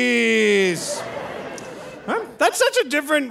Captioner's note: audience laughing